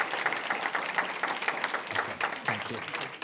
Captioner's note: applause